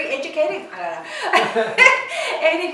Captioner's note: laughs